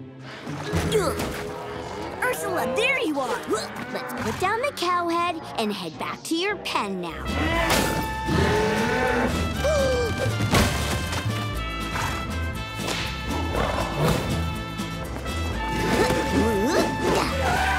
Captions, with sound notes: [grunting] Ursula, there you are. Let's put down the cow head and head back to your pen now. [bellowing] [gasps]